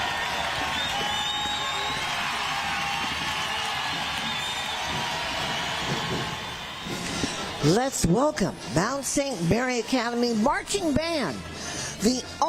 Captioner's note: applause